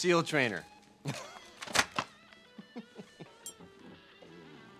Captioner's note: Hand laughs